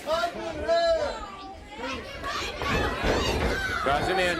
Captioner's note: crowd chatter